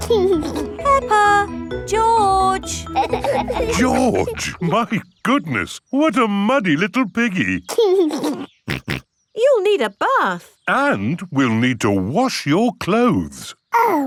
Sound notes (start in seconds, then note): 0.0 giggling; 7.7 giggles and snorts